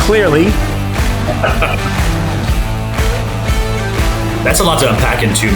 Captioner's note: upbeat music; chuckling